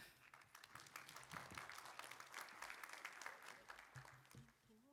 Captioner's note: applause